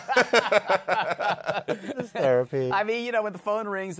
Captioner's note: laughter